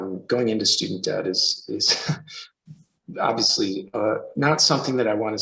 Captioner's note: chuckles